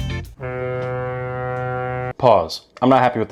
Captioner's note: air horn honks